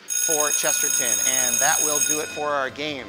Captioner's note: alarm rings